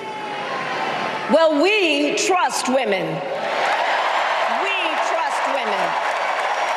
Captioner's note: applause